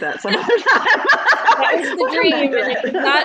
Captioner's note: both laughing